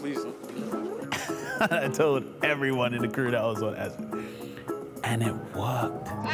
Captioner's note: laughs; laughing